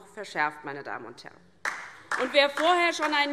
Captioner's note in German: Beifall DIE LINKE